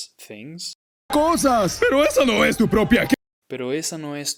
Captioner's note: speaking in Spanish